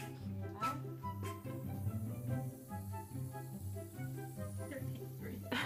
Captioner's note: hissing noise coming from the can